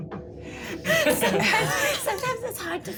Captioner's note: laughing